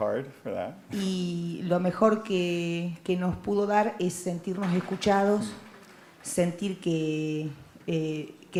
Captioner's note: Spanish language